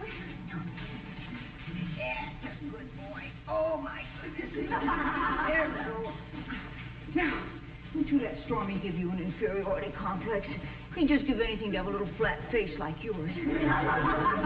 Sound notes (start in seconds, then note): 7.4 audience snickering